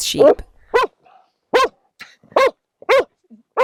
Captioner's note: dogs barking